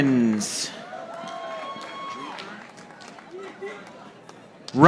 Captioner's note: audience applauding